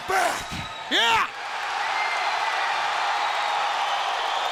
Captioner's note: audience cheering